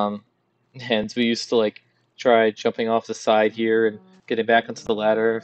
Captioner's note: laughs